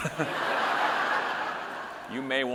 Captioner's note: audience laughing